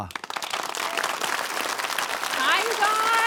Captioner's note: and audience clap